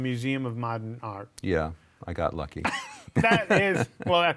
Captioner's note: laughs